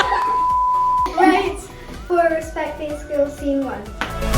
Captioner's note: clap